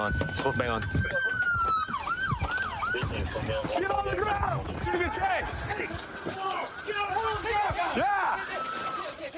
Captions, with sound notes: He's foot bailing. Get on the ground. [shouting]